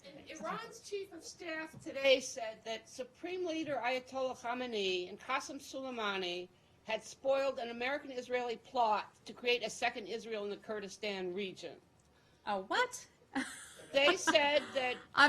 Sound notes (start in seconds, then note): 13.4 laughter